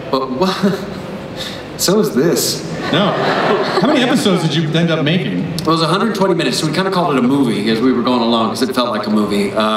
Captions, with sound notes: But (chuckles) so is this. (everyone laughs) - How many episodes did you end up making? - Well it was 120 minutes so we kind of called it a movie as we were going along because it felt like a movie.